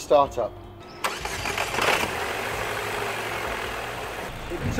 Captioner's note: engine starting